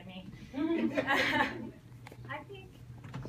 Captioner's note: people laugh